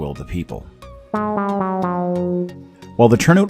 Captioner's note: game Over sound effect